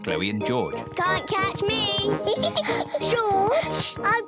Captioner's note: george giggling